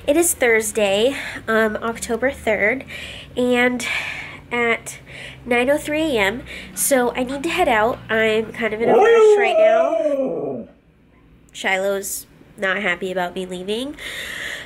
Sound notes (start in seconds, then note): 8.8 vocalizes